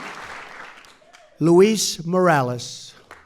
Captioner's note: applause